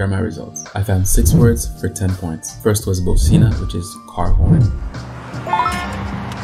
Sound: bocina

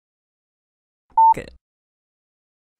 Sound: beep

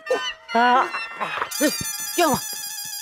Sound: gasps

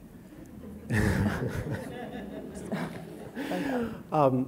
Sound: audience laughing

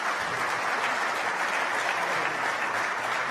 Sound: applause

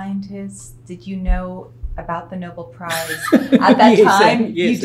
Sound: laughs

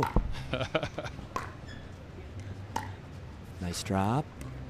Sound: chuckles

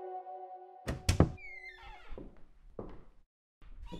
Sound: door opens

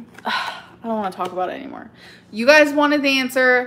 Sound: sighs

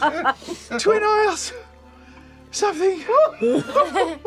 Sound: pants

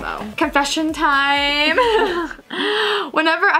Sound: laughs

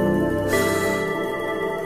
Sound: exhales sharply

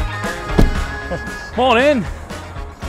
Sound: vehicle door thuds

